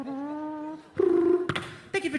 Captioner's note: line rings